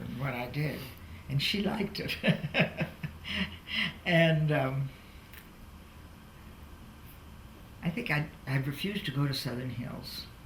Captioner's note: laughs